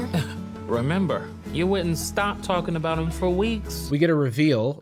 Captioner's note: scoffs